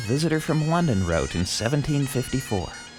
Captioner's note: man with English accent